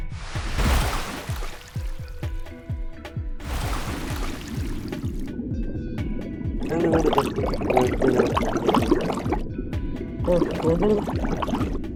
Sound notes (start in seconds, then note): 0.0 thud and wave crashing; 3.4 splash and underwater movement; 6.6 gurgling